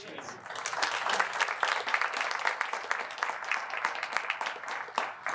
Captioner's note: applause